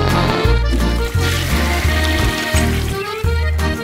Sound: poop sounds; toilet flushing

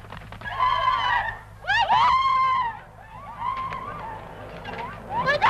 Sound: women scream

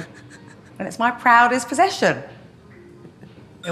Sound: interviewer chuckling

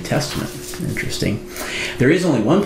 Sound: paper rustling

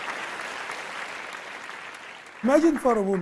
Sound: applause

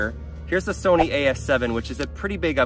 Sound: air whooshing

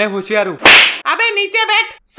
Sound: slaps

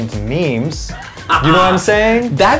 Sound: laughs

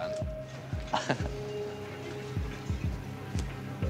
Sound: chuckles

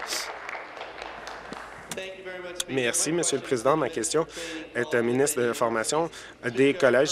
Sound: applause

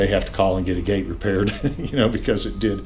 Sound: laughs

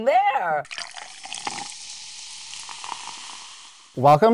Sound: liquid sizzling; liquid sloshing

